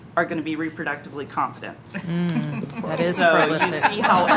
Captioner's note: laughter